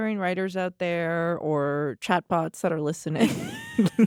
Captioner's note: laughter